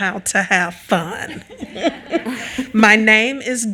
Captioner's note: all laughing